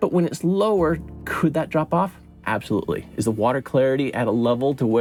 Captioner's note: none